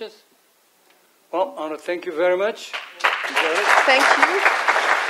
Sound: audience applauses

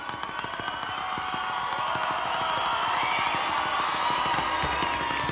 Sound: audience cheers and applauds

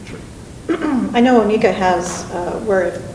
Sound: clears throat

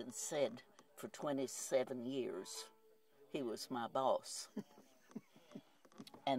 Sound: chuckles

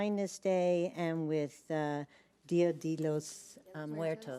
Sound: speaks a foreign language

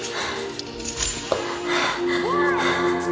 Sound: male screams

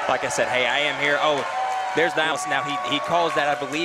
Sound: crowd booing

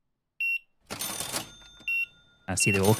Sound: beeping

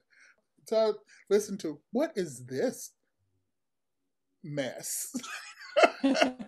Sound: laughs

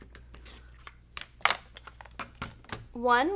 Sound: objects clattering

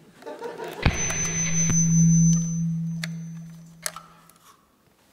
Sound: amp connecting

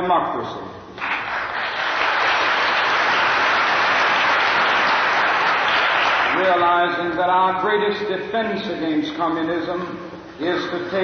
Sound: applause

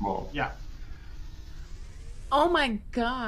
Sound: whizzing

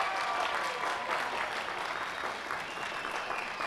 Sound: cheers and applause

